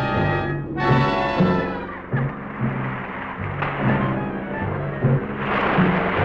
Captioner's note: water splashing